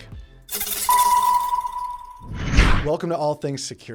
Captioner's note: whooshing